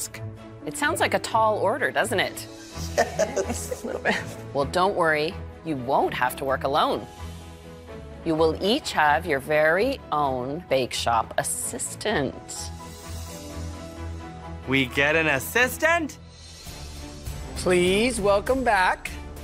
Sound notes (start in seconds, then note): 2.6 laughs